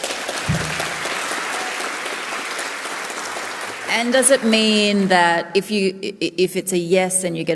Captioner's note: applause